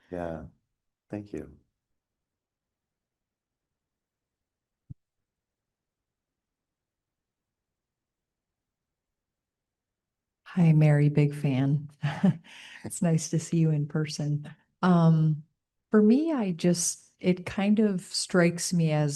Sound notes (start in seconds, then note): 12.0 chuckles